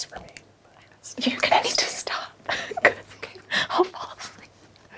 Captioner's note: laughs